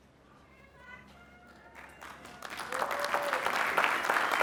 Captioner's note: applause